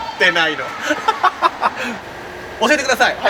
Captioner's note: laughs